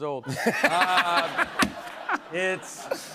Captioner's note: laughter